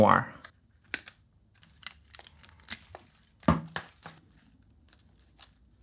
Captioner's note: plastic rustling